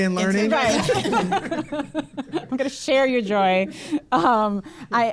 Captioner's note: laughs